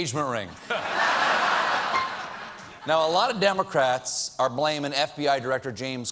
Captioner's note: laughter